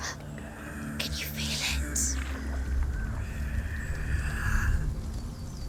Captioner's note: whisper; raspy breathing